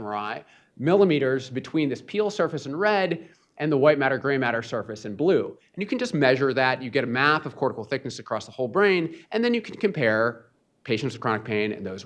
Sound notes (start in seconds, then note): none